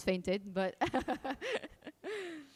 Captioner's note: laughing